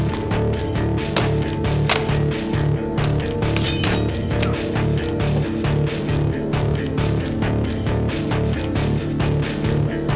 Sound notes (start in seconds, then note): 3.6 blade slashes